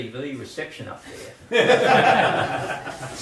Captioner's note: laughter